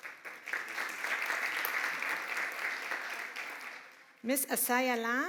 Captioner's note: applause